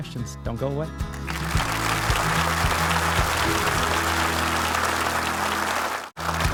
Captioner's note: audience applauding